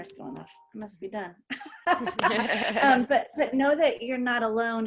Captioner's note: laughter